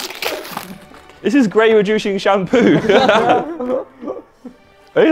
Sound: laughs

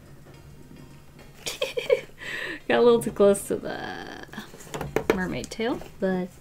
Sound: giggles

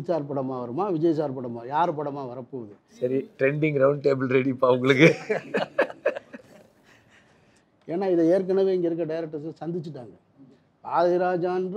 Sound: laughing

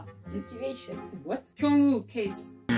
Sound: with Korean accent

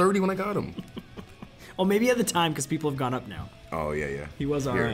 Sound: laugh

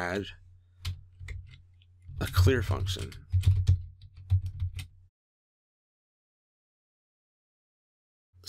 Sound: typing

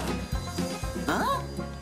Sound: sighs

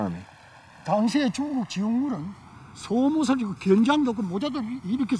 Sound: speaking foreign language

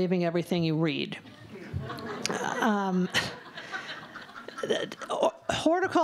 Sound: laughter

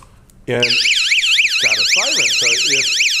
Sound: siren sounds

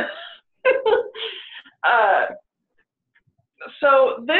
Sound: laughing

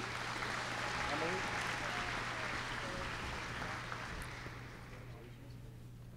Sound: applause

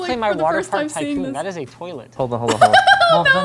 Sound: laughs

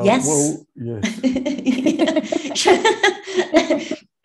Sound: all laughing

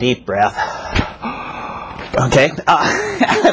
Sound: breathing

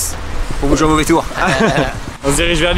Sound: laughes

